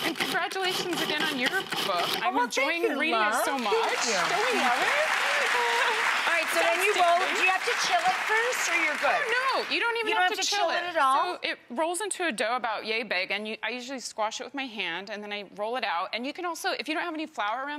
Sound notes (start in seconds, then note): 3.4 audience applauding